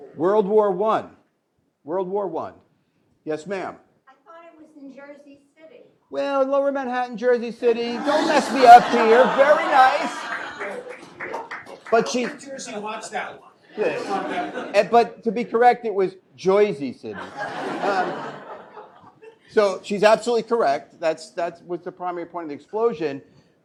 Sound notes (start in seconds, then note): 7.9 laughter; 10.1 scattered applause; 13.8 laughter; 17.1 laughter